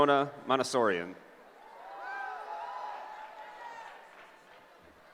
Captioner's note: cheering